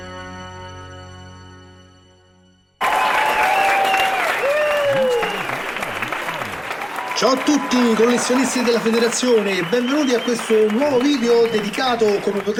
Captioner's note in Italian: Applauso